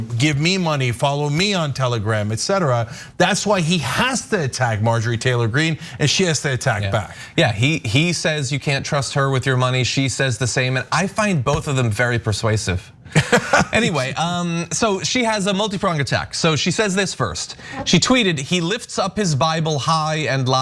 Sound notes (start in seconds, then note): 13.2 laugh